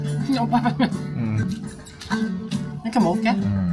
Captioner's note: slurp slurp slurp